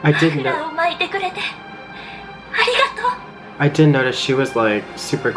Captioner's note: Attack on Titan Japanese audio